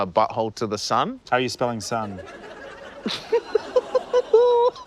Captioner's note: laughs; laughter